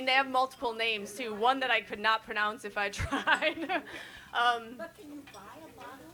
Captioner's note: laughs